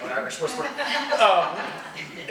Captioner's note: audience laughs